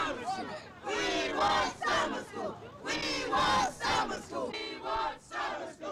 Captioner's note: protesters chant